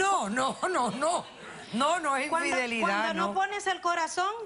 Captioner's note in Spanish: Riendo